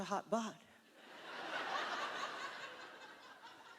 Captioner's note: laughter